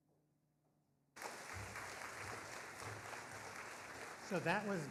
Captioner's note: audience applauding